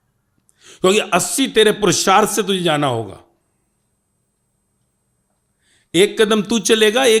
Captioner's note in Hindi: नाक से की जाने वाली आवाज़